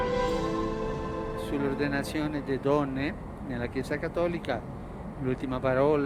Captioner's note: in Italian